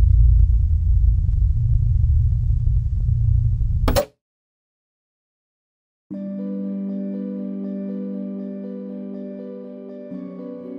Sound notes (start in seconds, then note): 0.1 static hums; 3.8 TV pops; 6.1 soft piano music